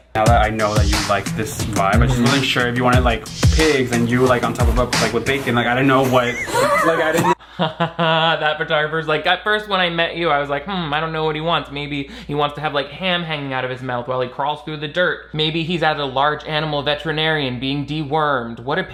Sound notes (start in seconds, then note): 6.1 group laughing; 6.2 chuckling